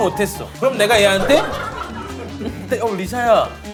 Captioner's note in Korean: ㅎㅎㅎㅎ